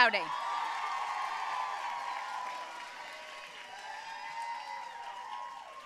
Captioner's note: audience cheering and applauding